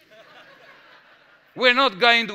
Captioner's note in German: Gelächter